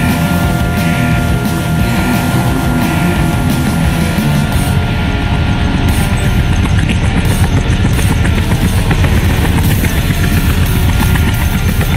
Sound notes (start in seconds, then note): 4.4 distant helicopter sounds; 5.9 helicopter sounds get louder